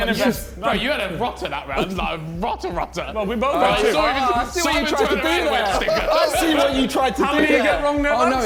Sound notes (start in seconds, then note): 3.6 men exclaiming